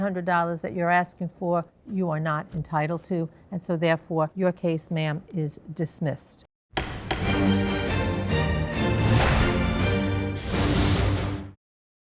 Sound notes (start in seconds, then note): 6.8 gavel bangs; 6.8 triumphant music plays